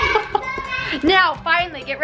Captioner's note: laughs